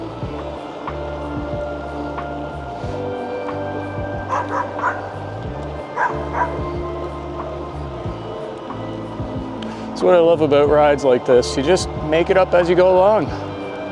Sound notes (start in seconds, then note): 4.3 dog barks